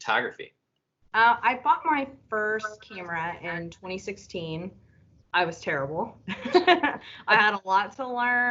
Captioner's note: laughter